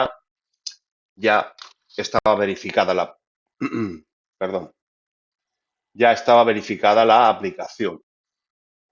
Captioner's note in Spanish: carraspeo